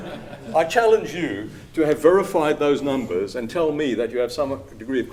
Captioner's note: laughter